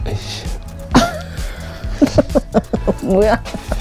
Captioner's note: laughing hard